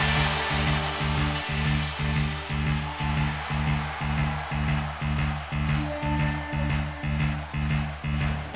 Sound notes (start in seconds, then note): 4.8 crowd claps